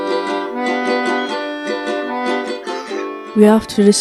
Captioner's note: seagulls squawk